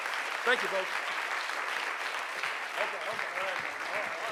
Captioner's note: audience applauds